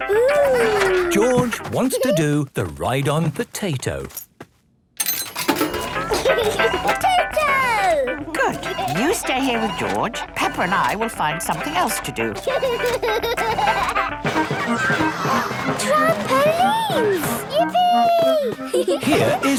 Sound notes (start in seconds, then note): 5.7 giggling; 11.6 George giggles; 15.0 gasps; 18.5 giggling